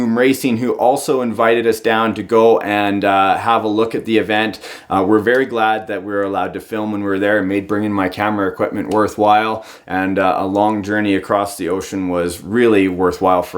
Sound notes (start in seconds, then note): none